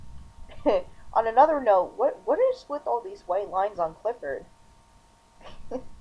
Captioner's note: chuckle